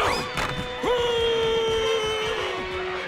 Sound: yelling

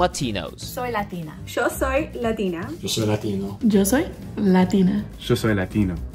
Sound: all speaking in Spanish

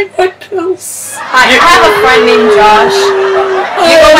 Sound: audience Laughs

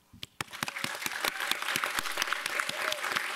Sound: applause

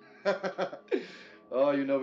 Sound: laughing

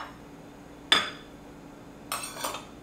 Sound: knife scraping; plate rattling

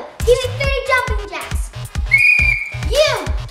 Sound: blowing a whistle

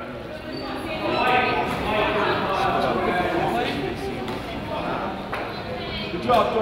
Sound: crowd chatters; coach yells

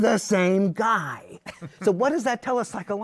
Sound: laughter

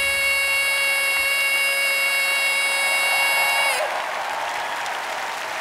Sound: audience cheers

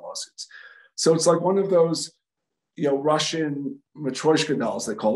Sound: speaking in Russian

